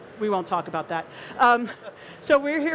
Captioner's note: they laugh